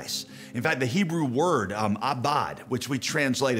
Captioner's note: speaks in foreign language